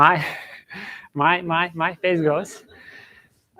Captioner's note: chuckles